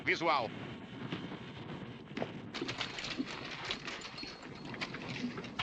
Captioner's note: horses cantering